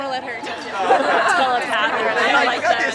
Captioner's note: girls chat; girls laugh